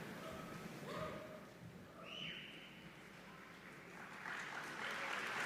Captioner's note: audience cheering; audience applauding